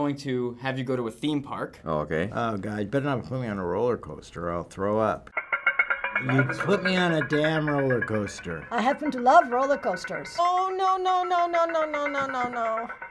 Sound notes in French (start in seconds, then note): 5.3 en jeu: Bruit de rail